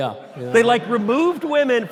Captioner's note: audience laughter